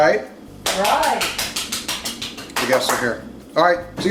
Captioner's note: clapping